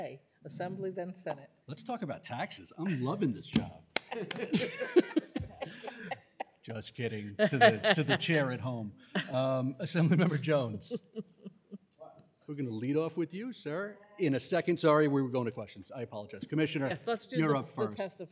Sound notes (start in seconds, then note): 7.4 laughter